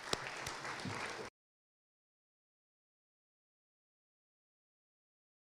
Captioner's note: applause